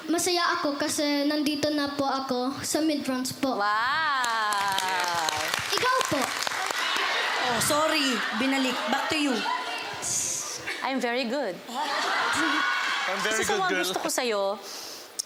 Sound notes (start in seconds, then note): 4.2 applause; 6.5 crowd laughs; 11.7 giggles; 11.7 laughter